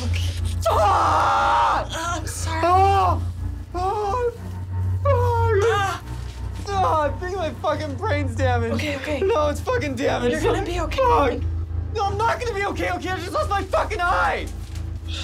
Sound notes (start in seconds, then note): 4.4 Jesse screams in pain